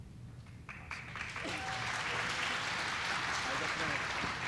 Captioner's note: audience applauds